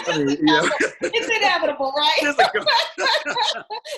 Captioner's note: laughing